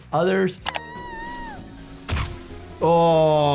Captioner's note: Giggles screaming